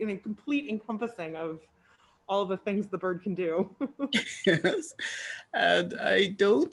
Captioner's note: laughs